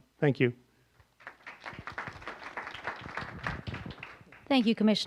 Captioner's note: applause